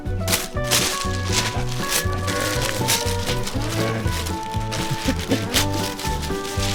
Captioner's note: growl